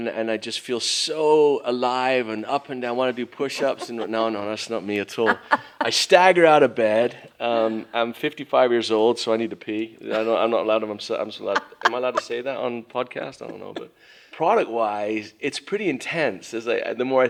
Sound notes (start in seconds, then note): 5.2 laughs